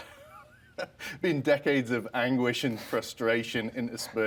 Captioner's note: laughs